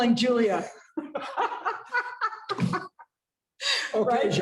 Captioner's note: laughter